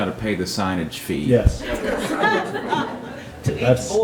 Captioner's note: audience laughs